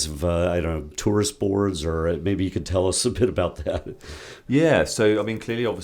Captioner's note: laugh